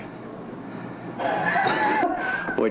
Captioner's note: laughs